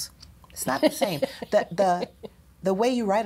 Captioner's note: laughs